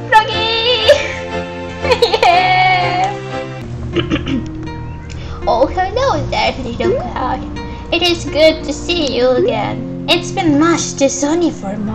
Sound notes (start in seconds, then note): 3.9 clears throat